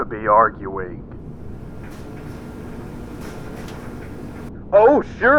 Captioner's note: distant mechanical grinding and whirring